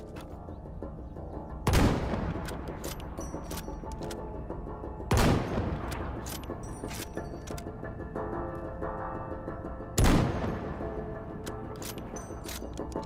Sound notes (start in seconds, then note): 2.2 gun firing